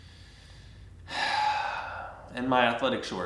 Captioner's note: sighing